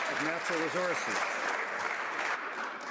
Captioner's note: some Applause